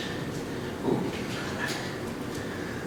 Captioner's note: whispers